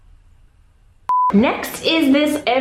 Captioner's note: beep